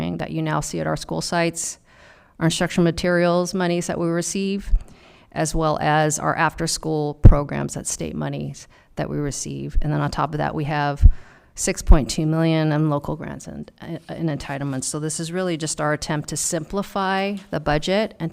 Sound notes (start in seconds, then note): none